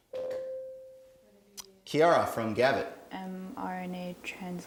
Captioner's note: ding